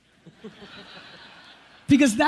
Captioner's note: audience laughs